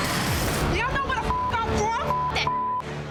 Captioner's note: beep